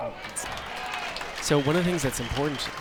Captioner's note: crowd applauds